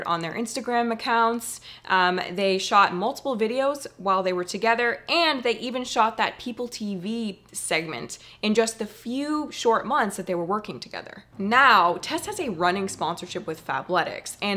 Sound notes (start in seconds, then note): none